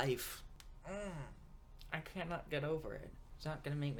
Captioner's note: groans